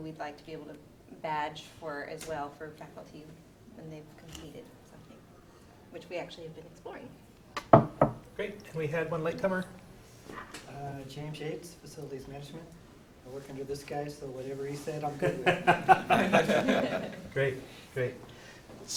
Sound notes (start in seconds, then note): 15.2 laughs